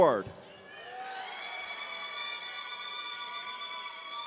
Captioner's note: audience cheering